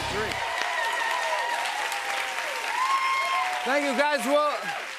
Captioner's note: cheers and applause